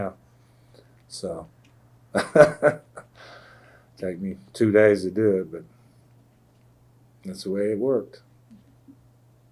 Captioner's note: laughs